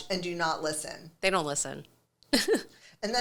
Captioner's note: chuckles